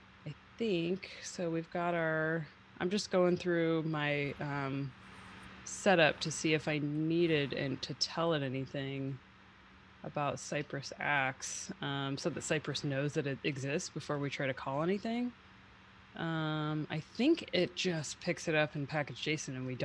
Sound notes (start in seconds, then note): none